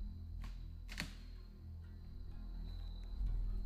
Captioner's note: snapping